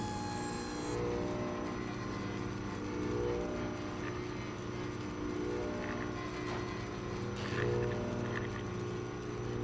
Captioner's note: electrical thrumming